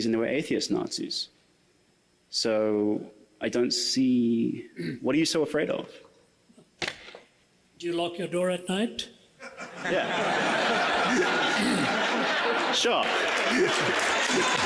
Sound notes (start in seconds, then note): 9.4 audience laughs